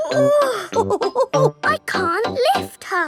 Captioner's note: chuckles; straining